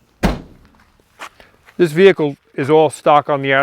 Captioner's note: door slams